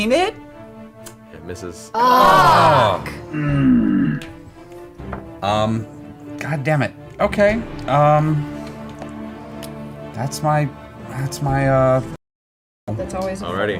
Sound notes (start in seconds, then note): 1.9 all groan